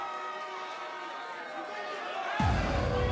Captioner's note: crowd cheering